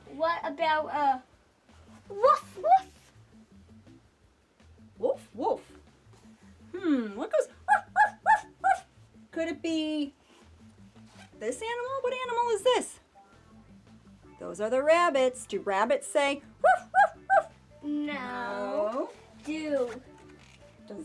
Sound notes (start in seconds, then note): 7.6 barking